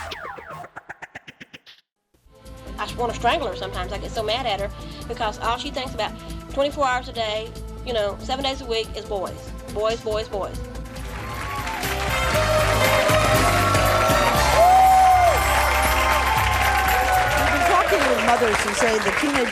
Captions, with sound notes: - I just wanna strangle her sometimes. I get so mad at her because all she thinks about 24 hours a day ya know, seven days a week is boys. Boys, boys, boys. (upbeat music) (clapping) - We've been talking to mothers who say their teenagers